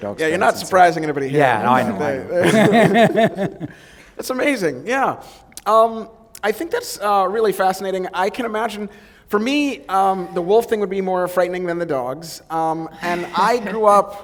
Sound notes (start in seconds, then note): 4.4 chuckle